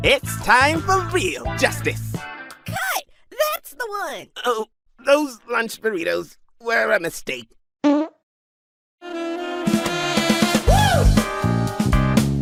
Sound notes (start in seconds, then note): 7.8 fart noises